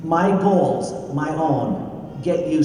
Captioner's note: none